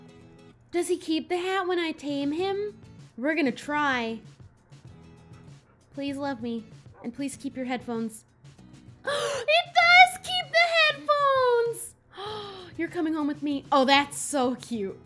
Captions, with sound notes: Does he keep the hat when I tame him? We're gonna try Please love me and please keep your headphones *gasp* It does keep the headphones! *gasp* You're coming home with me. Oh, that's so cute